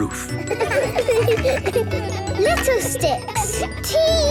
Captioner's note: laughter